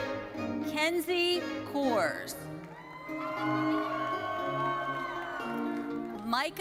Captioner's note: audience cheering